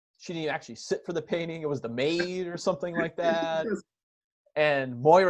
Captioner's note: laughing